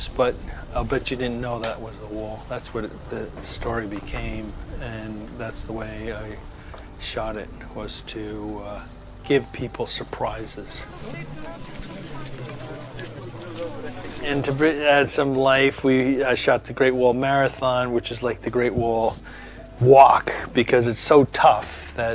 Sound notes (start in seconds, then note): 11.3 people chattering